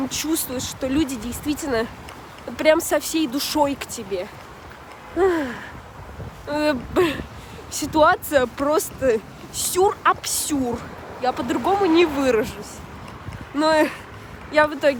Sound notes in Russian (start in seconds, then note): 5.1 вздох